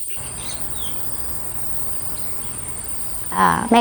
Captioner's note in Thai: เสียงนกร้อง